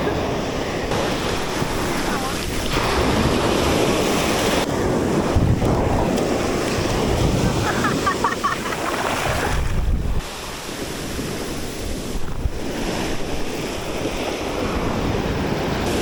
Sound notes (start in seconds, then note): 7.6 laugh